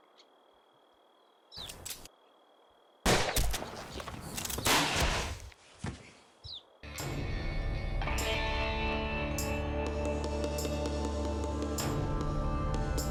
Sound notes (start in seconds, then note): 3.0 gunshots